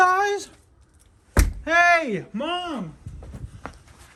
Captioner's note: bangs on door